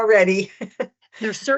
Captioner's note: laughs